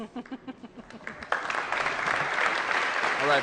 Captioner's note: applause